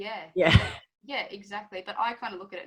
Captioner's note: laughs